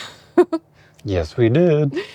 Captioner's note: laughs